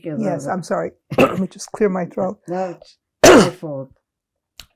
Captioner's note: clears throat